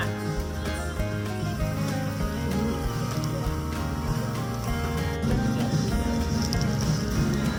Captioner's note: laughs